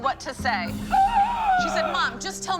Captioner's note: gasp